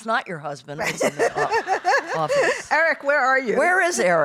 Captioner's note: laughing